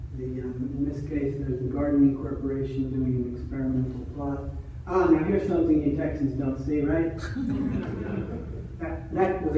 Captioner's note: audience laughter